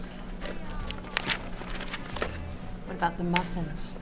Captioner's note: page turning